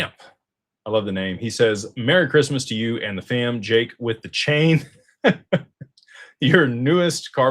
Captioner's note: laughter